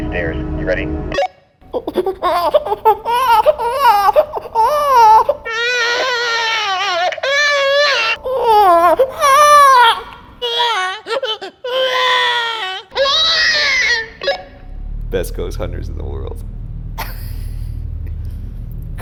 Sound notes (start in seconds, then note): 1.7 cries like a baby; 10.2 cries like a baby; 17.0 laughs